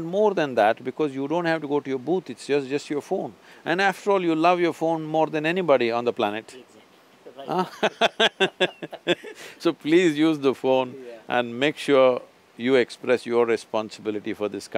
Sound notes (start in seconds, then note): 7.5 both laugh